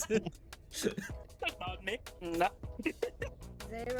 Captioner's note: laughs